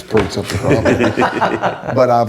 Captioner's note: laughs